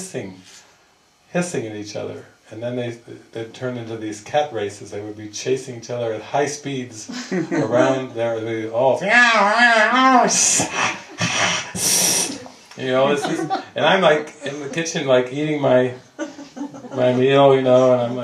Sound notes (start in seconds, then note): 10.6 upset cat sounds and hissing